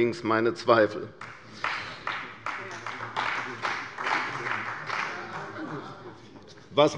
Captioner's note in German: Beifall bei der CDU und dem BÜNDNIS 90/DIE GRÜNEN